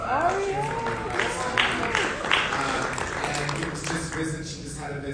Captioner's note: audience applauding